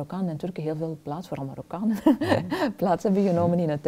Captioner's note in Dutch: lacht